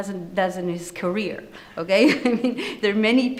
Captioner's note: chuckles